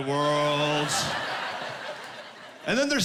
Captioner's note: laughing